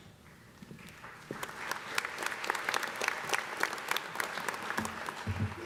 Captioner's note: audience applauding